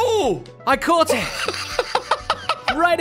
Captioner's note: laughs